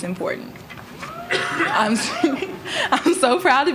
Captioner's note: cheering